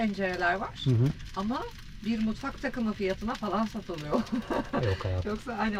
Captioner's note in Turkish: kahkaha